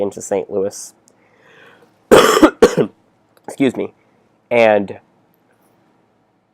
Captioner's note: cough